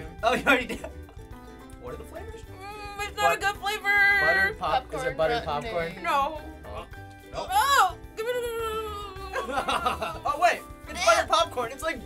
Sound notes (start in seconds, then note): 7.6 mutters anxiously; 8.3 laughs